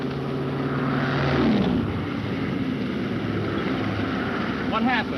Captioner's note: engine revving